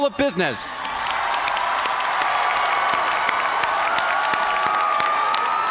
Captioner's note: cheers and applause